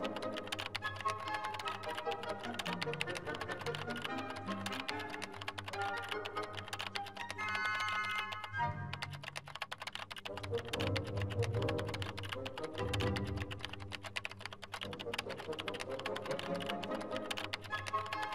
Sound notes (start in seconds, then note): 0.0 keyboard clicking